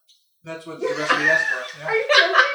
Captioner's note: laughter